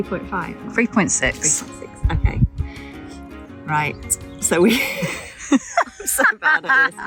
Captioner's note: giggles